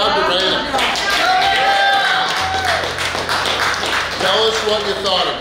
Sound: cheering & Clapping

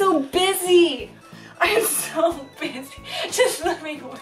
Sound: laughing

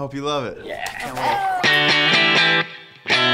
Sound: friends cheer

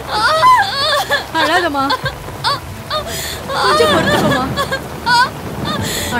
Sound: heavy rain & Thunder sounds

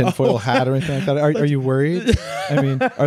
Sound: laughing

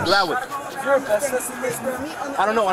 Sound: background talking

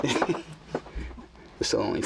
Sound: laughing

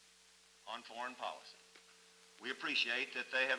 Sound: none

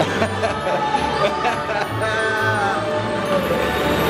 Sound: laughter

